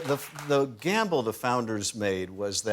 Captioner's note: cheers and applause